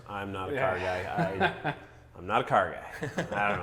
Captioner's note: laughs